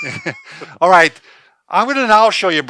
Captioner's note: laughs